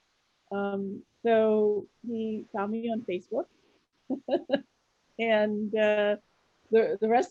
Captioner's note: laughs